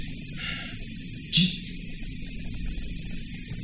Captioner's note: sighs